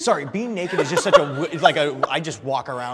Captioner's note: all laughing